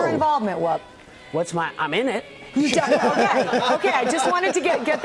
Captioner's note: laughter